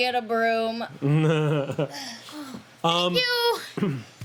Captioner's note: laughing